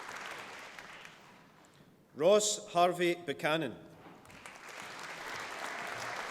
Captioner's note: applause